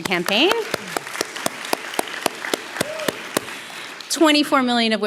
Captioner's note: audience applauding